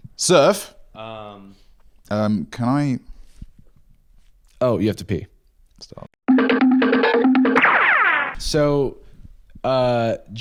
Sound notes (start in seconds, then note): 6.3 cartoon running sound effect